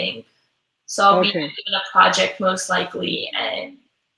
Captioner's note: voice muffled